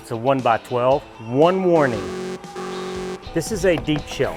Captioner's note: buzzer buzzing